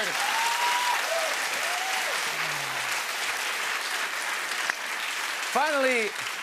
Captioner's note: cheers and applause